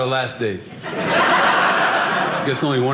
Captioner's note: audience laughing